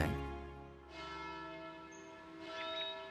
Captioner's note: bell tolling